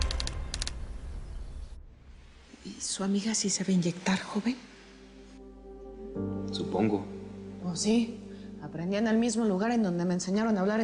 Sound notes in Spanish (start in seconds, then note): 3.6 En voz baja